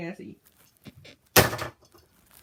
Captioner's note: bed squeaks